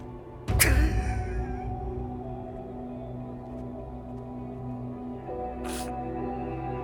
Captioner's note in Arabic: موسيقى درامية; ناثان يبكي